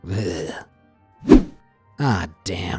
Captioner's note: image whooshing